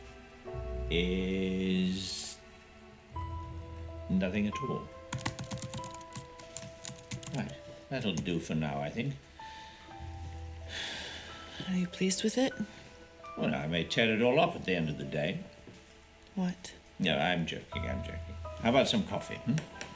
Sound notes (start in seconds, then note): 5.1 keys typing